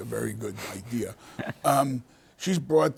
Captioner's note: panelists laughing